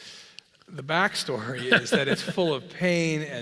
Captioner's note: laugh